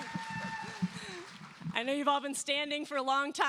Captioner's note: cheers and applause